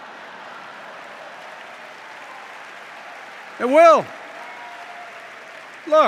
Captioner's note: laughter and applause